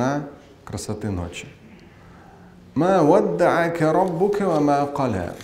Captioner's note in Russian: Говорит на арабском